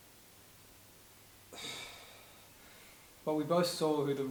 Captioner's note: sigh